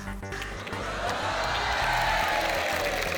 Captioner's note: cheering, applause